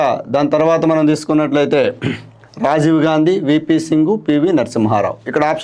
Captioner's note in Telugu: గొంతు సవరించుకోవడం